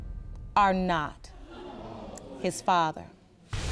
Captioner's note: audience gasps